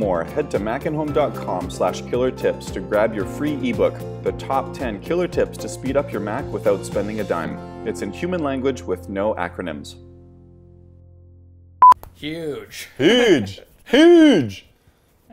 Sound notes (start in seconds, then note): 11.8 beeps